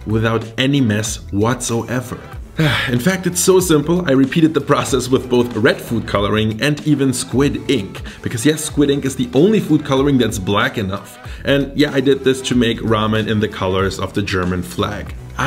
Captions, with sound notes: without any mess whatsoever. (sigh) In fact it's so simple I repeated the process with both red food coloring, and even squid ink because yes squid ink is the only food coloring that's black enough. And yeah I did this to make ramen in the colors of the German flag.